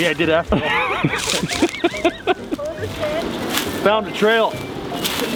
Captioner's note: laughing